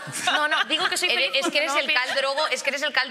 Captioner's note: they laugh